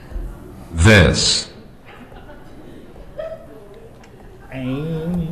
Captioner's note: computer voice